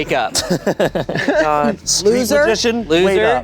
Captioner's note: laughing